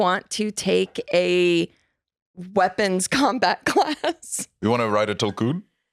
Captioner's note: laughs